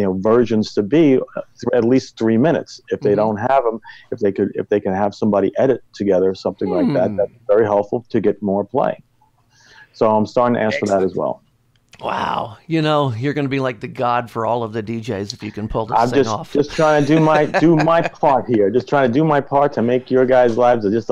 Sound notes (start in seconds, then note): 16.5 laughs